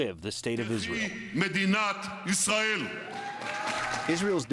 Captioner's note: cheering and applause